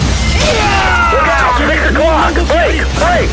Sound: KO Scream

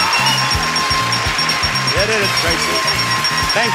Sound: bell ringing

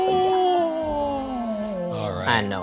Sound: sighing happily

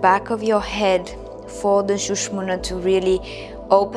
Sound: speaking in foreign language

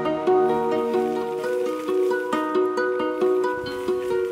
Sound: dirt crunching

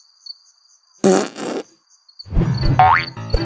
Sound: toot!

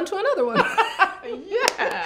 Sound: both laugh

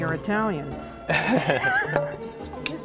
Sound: laughter

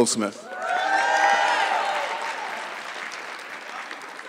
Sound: audience clapping

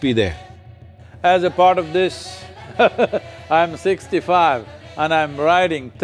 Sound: laughs

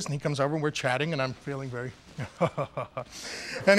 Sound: laughs confidently

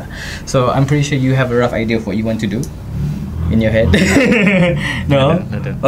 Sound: laughs

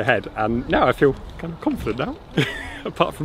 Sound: chuckles

